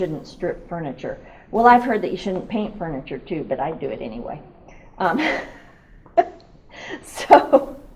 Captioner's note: laughs